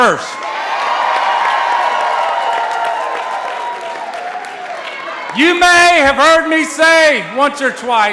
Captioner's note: cheering and applause